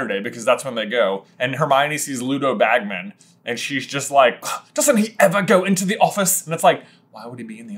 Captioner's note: scoff